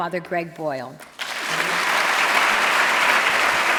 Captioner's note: applause